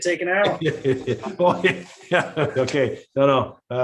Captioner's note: members laughing